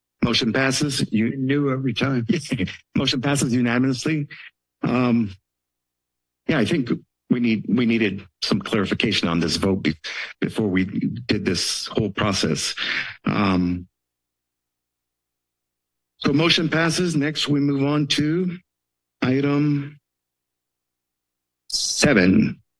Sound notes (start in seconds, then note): 2.3 chuckles